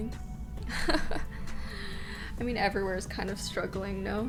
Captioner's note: laughing